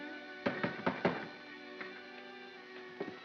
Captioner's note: knocking on door